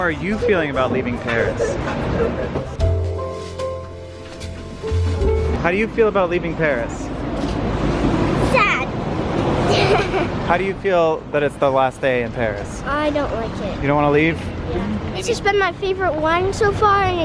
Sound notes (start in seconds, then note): 2.8 melancholy music; 9.6 laughing